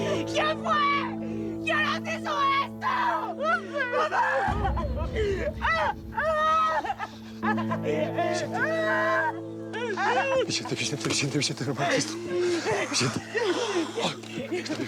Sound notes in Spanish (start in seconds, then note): 5.9 llanto